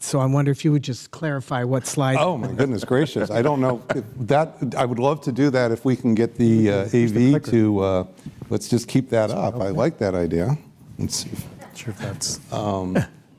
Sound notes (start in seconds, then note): 2.1 laughter